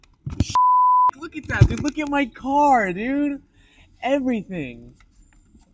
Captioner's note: beep